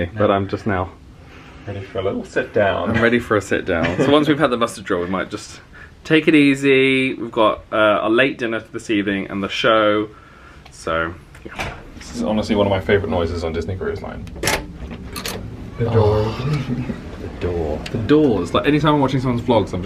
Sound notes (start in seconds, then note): 14.3 door latch clunks